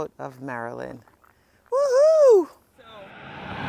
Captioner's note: shouting